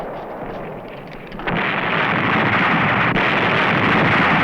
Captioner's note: blasting